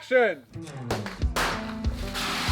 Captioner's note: gunshot